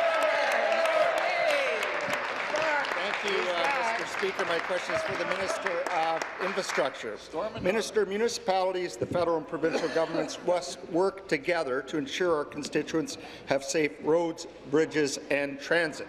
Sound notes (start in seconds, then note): 0.0 applause; 3.7 applause and cheering